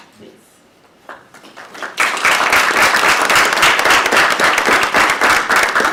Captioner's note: applause